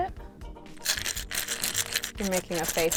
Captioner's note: rattles